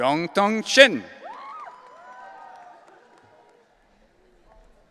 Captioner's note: audience cheering